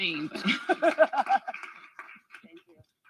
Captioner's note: audience member laughing